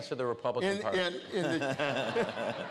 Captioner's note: laughter